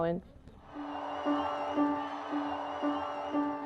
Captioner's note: cheering